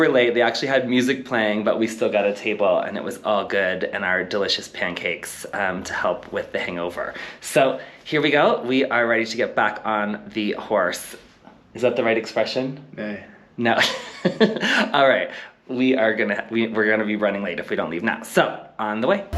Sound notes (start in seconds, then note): 13.8 giggles